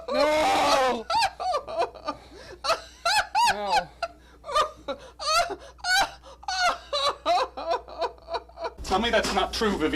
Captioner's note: more Laughter